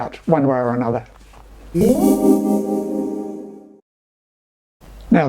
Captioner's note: ethereal zing - Signage